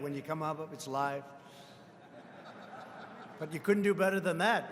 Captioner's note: laughter